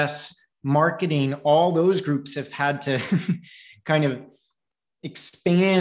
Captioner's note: chuckles